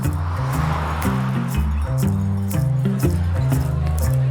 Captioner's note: car whirs